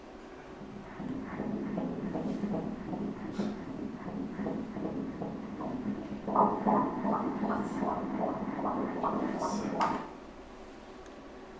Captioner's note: heart beats